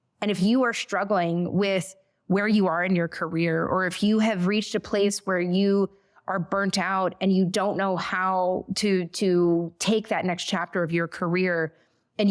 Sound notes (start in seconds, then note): none